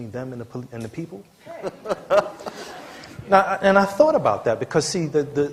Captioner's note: laughter